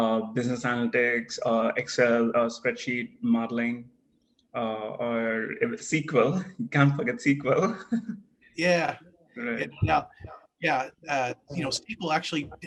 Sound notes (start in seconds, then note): 7.6 laugh